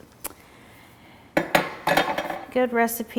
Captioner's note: spatula clinking